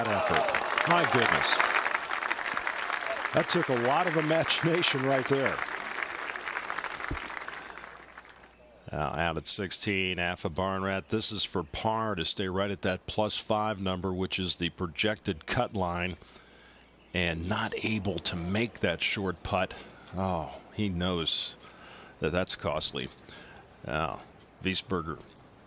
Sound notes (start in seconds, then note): 6.0 applause